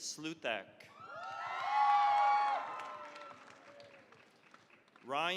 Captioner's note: cheering, applause